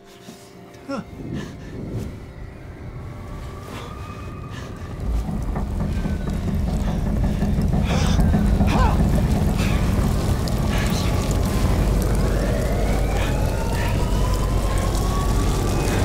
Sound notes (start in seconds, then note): 0.1 fire crackles; 0.1 tense music; 12.9 sirens blare